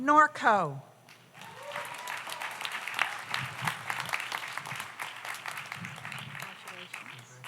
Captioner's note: audience applauds; audience cheers